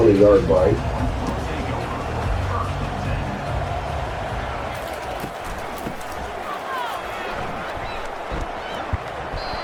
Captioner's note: crowd Noises